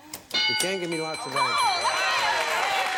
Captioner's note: ding